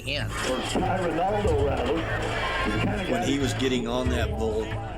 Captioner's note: people chattering